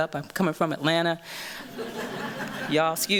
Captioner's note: laughter